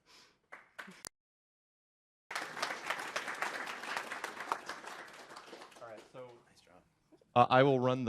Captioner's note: applause